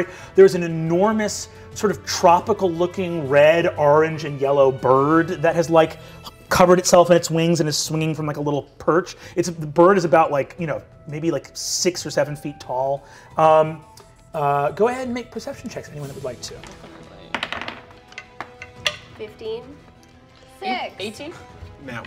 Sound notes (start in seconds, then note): 17.2 dice clatter